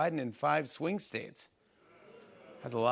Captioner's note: none